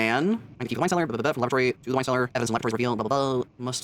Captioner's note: sped-up talking